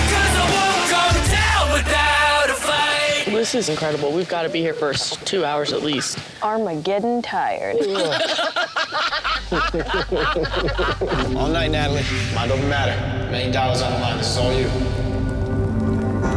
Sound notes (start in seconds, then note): 7.7 all laughing